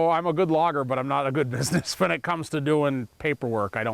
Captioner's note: chuckling